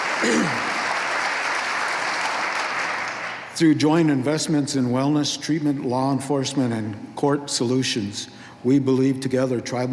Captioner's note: applause